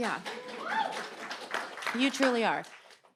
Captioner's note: audience cheering